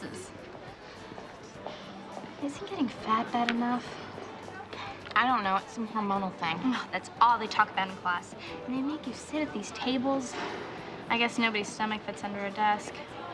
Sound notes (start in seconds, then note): 1.0 sighs